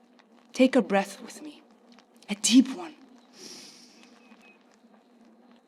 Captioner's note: inhales